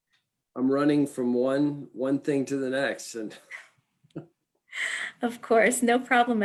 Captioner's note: chuckles